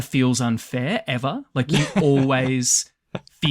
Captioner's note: laughs